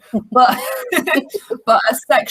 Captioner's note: chuckles